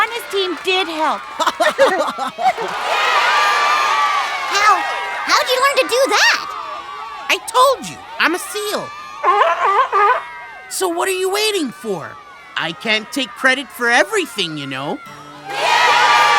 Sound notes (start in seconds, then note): 1.4 chuckle; 2.4 cheer; 8.1 barks like a seal; 14.7 cheering